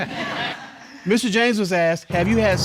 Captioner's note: laughter